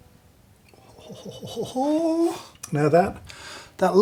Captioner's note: chuckles